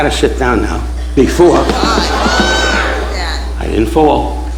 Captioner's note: audience gasps